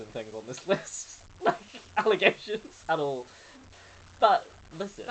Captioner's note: laughing